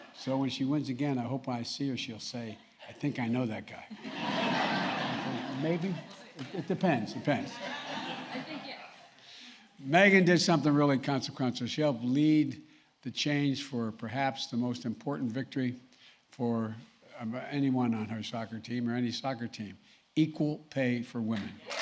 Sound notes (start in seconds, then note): 3.9 laughter